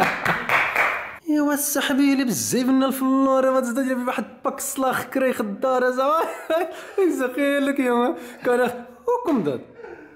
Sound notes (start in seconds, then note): 5.5 Moroccan accent